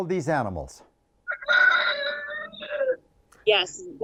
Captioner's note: rooster crows